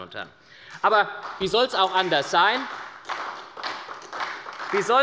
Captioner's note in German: Beifall bei der SPD